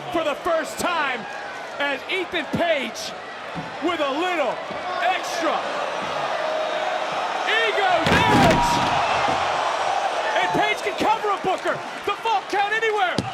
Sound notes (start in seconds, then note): 9.0 crowd gasps